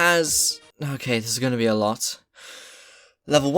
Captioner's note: deep breath